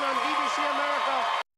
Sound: cheers and applause

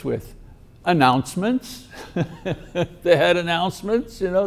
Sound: chuckles

